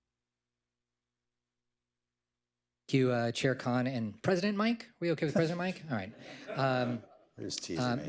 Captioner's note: laughter